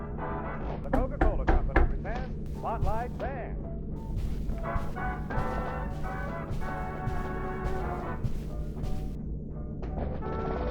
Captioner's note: The Steward knocks as Felix's radio plays a swing music broadcast